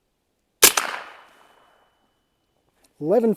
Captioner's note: gunshot